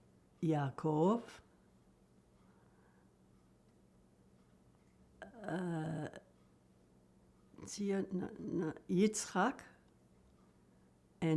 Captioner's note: pauses 8 seconds